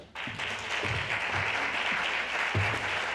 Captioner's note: applause